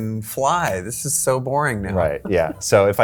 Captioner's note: chuckles